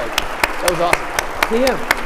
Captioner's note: audience applauding